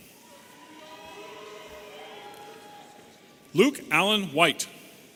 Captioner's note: audience cheering